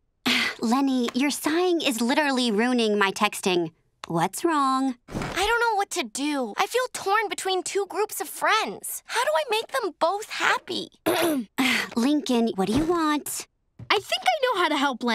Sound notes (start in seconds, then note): 11.0 Lincoln clearing throat